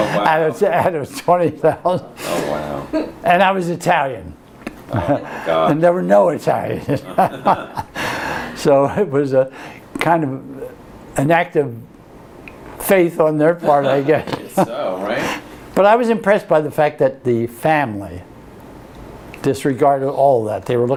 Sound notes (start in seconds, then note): 6.8 laughter; 13.6 laughs